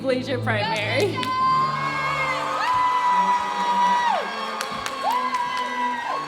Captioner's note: audience cheering